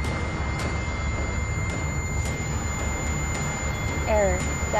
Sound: beep intensifies

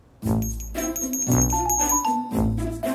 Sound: jingling

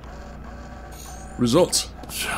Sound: digital chime

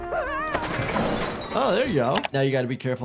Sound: trash can bangs; mouse clicks

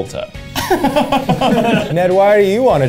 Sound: Zach laughs

